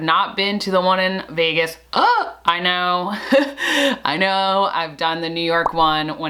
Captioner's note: gasp!